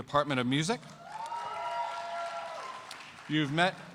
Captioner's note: cheers and applause